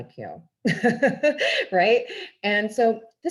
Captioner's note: laughs